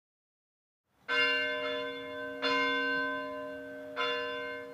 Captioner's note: bell ringing